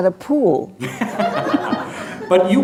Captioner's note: laughter